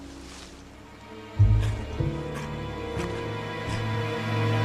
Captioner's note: bear grunting